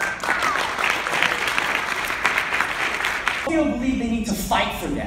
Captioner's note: applause